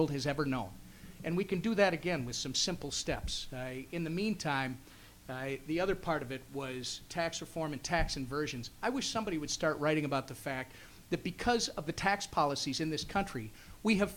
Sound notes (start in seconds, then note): none